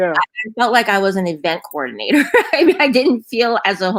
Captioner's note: laughs; laughs